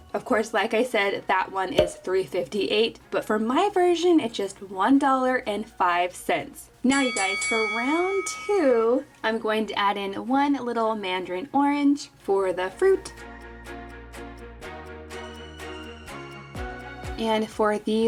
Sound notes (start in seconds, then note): 6.9 bell dinging; 14.0 upbeat music